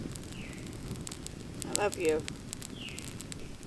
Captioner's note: bird chirp; bird chirp